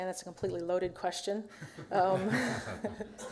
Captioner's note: laughter